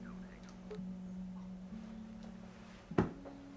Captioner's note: phone beeps